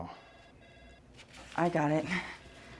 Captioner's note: phone ringing